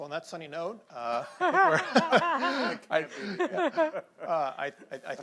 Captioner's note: laughter